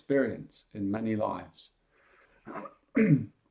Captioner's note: clears his throat